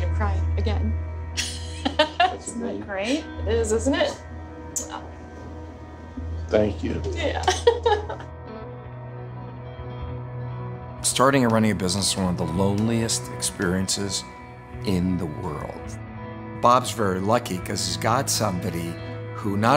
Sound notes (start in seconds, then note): 1.4 laughs; 7.2 laughs